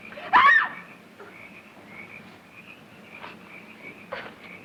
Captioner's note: Valerie screams